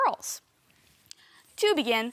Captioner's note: soft breathing